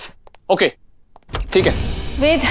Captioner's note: Door opens